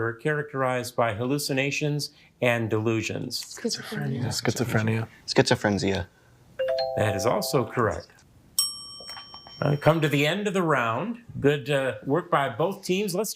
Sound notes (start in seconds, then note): 6.6 musical notes chimes; 8.6 bell dings